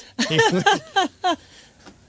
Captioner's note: laughing